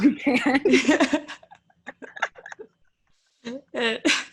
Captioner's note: laughs